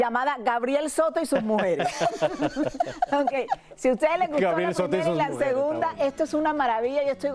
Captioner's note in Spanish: risas